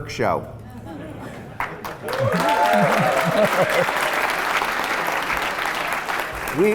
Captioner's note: laughs and applause